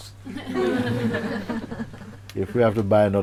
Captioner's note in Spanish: Risas